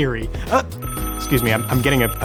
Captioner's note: phone ringing